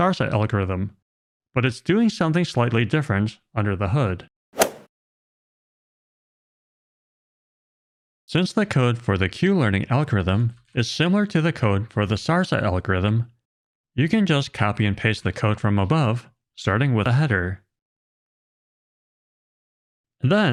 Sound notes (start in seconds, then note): 4.6 golf ball hit sound effect